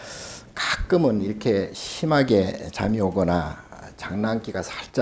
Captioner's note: speaking Korean